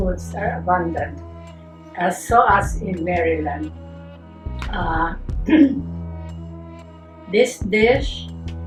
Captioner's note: clears throat